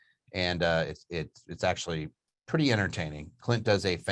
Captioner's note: none